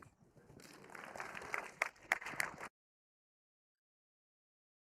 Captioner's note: audience applauding